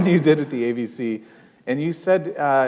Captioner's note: chuckle